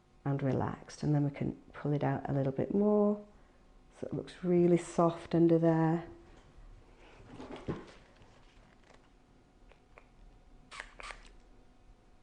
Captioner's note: ASMR sounds